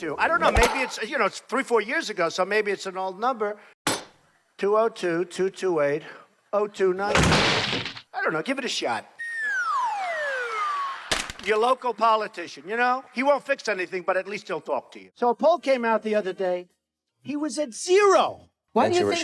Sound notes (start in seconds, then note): 7.1 crashing; 9.2 comical crescendo